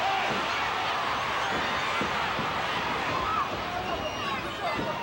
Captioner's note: audience cheering continues